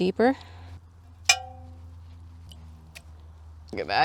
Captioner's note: metal ring clanks against ceramic, gloopy noises